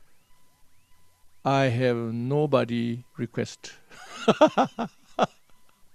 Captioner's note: laughs